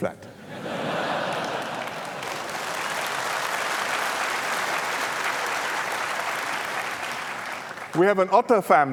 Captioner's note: laughter and applause